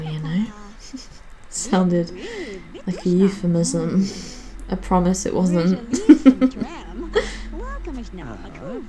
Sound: laughs

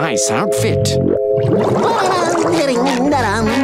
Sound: humming

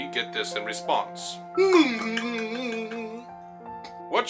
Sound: gibberish Clicking of Tongues and Humming

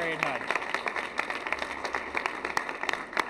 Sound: applause

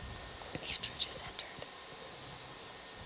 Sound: whispered

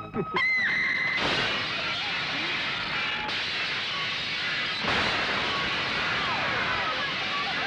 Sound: screams; glass shatters

